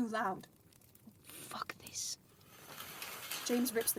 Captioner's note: curtains slide